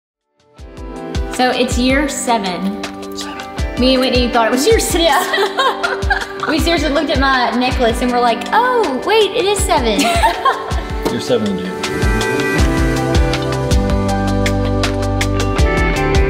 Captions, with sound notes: (soft music) - So it's year seven. Me and Whitney thought it was year six. (laughs) - We seriously looked at my necklace and we're like, "Oh, wait, it is seven." - We're seven dude. (soft music continues)